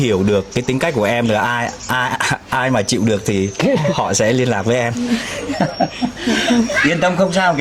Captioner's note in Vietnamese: tiếng cười